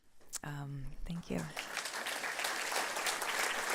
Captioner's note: applause